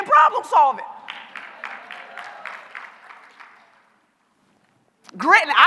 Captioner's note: applause